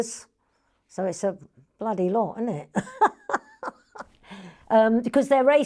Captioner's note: laughs